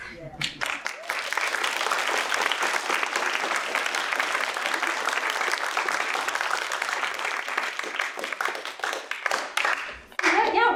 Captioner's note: applause